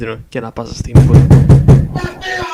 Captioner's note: knock